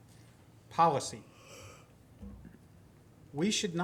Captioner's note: yawning